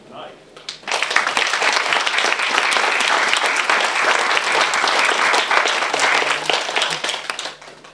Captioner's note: applause